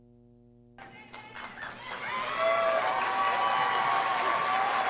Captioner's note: audience applauding